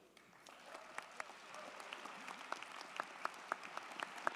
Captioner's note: crowd clapping